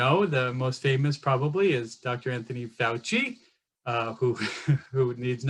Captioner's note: laughs